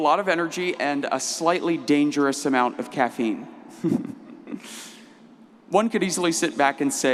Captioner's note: laughs